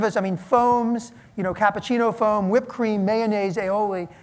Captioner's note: none